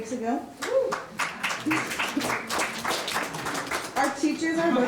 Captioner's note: audience clapping